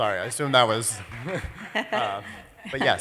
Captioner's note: laughter and applause